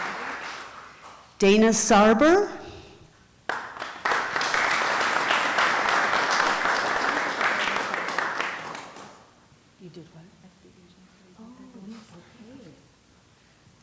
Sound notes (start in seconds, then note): 3.4 applause